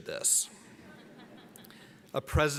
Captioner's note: audience laughs